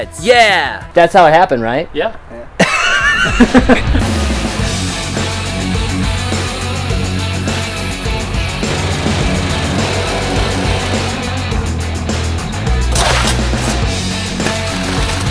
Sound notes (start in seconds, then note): 2.4 laughs; 4.2 upbeat rock music